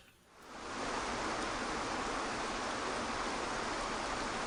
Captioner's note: water pouring